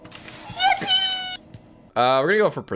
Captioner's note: yippie sound effect